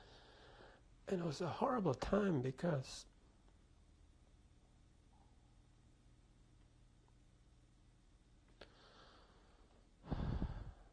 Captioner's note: pauses for 6 seconds; sighs